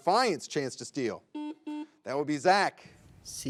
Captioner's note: buzzer beeps